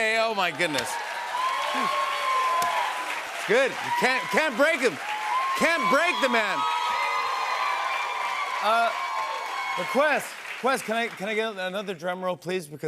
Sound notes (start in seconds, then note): 1.4 cheers and applause; 6.6 cheers and applause continue